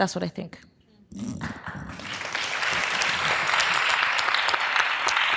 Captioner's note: audience applause